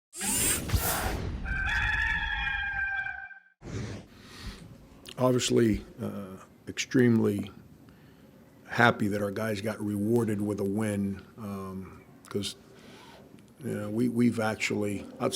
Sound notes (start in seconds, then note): 0.3 dramatic sound; 1.4 cock crowing